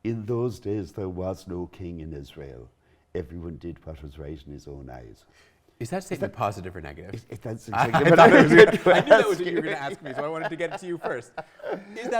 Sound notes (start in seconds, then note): 7.8 laugh